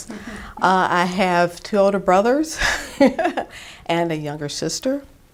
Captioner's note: chuckles